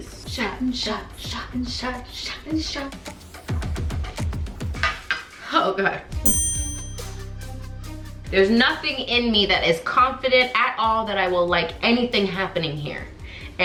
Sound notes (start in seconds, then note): 3.1 upbeat music; 6.2 sharp chime noise